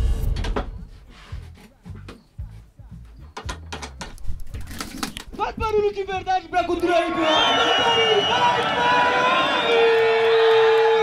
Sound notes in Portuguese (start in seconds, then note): 4.7 Esfregando